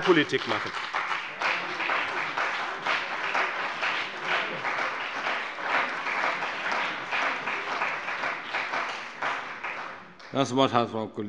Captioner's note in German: Beifall bei dem BÜNDNIS 90/DIE GRÜNEN und der CDU